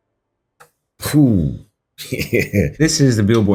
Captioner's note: chuckling